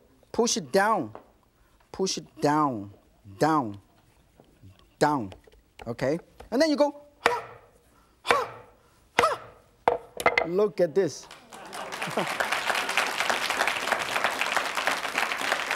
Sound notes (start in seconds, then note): 11.2 audience applauds